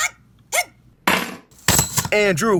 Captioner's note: keys hitting a table; slinky hitting a table